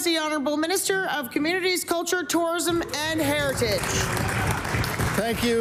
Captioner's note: some Applause